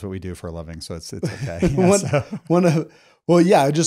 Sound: both laughing

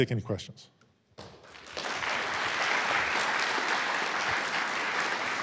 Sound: audience applauds

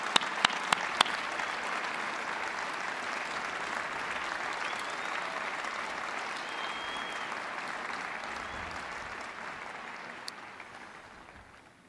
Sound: applause

